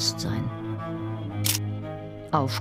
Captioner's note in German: Klicken